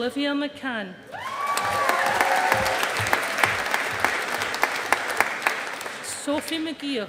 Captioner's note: audience applauding